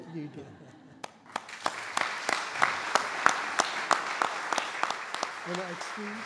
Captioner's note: audience Applause